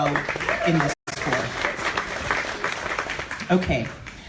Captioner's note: audience applauds